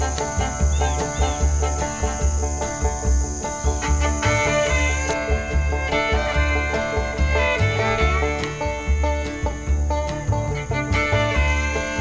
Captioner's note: crickets chirping